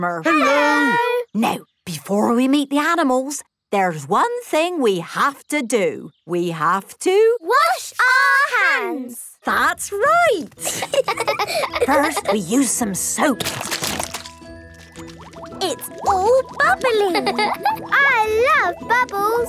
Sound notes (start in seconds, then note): 10.6 laughing; 13.0 squirt! squirt!